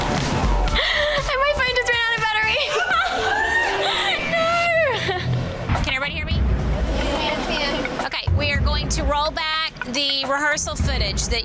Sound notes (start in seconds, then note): 2.4 laughs